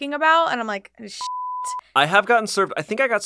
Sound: beep

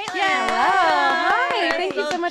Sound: cheers

